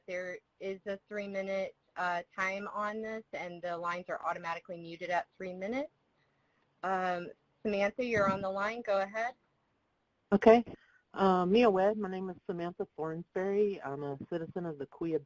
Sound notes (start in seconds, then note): 9.4 speaking Native language